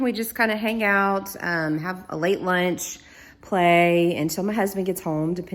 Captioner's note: none